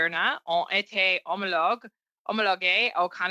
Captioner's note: speaking French